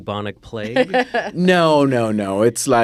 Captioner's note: laughs